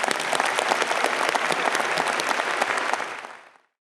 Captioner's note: audience applauds